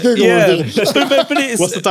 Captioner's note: laughing